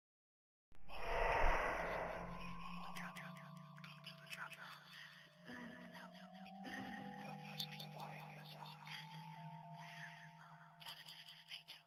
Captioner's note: ghostly whispers